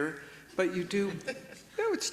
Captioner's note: attendee laughs